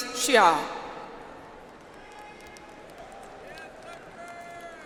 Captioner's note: audience applauds